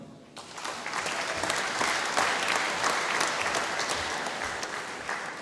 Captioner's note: applause